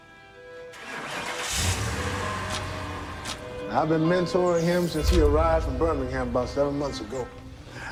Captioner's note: engine starts